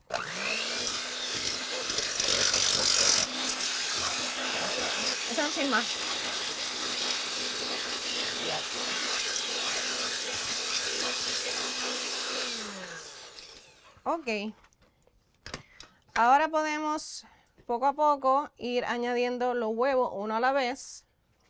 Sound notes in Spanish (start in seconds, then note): 10.2 continúa batidora